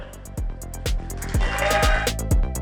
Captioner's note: crowd cheering